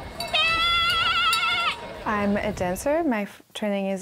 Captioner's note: baaing